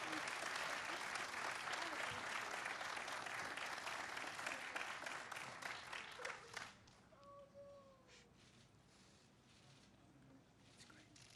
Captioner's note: applause